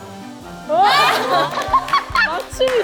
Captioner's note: bursts out in laughter